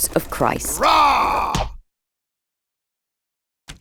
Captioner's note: Paul roaring; letter smacking